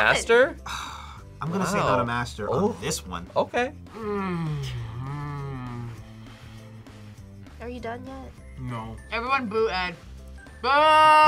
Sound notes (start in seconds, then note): none